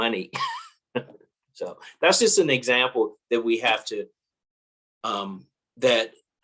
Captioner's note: laugh